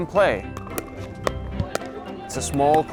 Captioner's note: paddles hitting ball